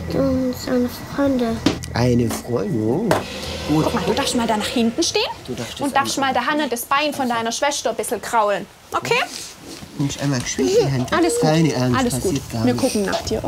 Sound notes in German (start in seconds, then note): 10.7 weint